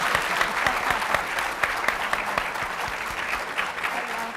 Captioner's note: audience applauds